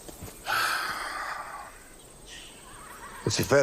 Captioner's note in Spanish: Gancho suspira